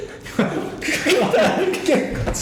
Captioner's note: laughing